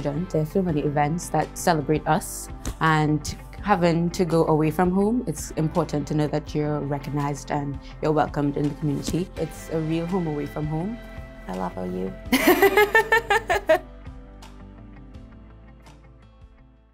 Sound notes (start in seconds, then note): 12.4 laughs; 14.3 upbeat music